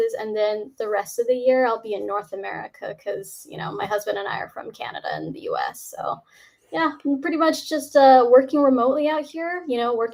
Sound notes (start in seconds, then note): none